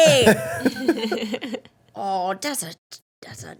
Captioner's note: laughing